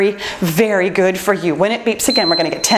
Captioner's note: timer beeps